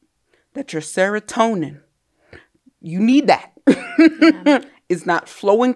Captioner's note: laughs